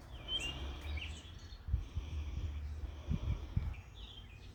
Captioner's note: birds singing